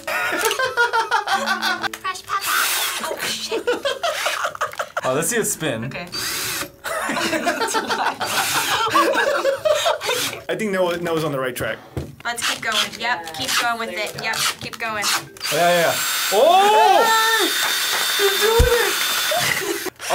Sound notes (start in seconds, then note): 2.4 drill whirring; 3.0 laughing; 6.1 drill whirring; 6.8 people laughing